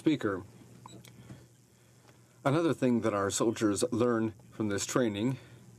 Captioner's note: speaking in french